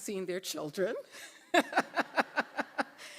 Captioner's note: laughter